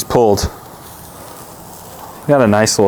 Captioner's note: steak sizzling